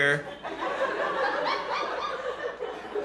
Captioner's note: laughter